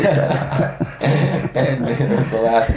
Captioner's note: all laugh